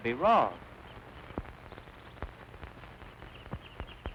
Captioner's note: birds chirping